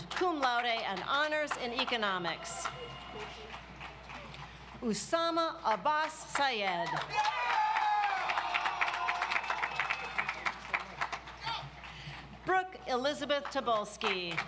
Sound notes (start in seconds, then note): 6.7 audience applauds